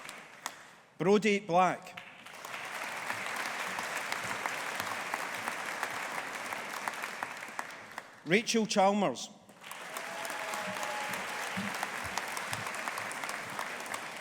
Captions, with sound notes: Brodie Black. (AUDIENCE APPLAUDING) Rachel Chalmers. (AUDIENCE APPLAUDING)